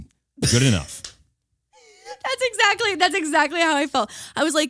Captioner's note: laughing